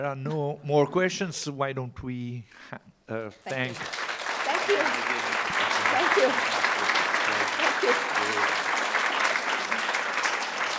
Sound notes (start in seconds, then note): 3.7 applause